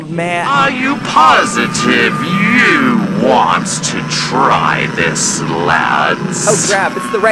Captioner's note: Angry Wendigo voice with loud static